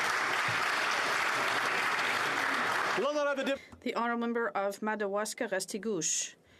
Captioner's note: some Applause